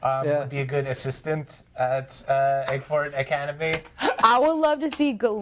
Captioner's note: laughing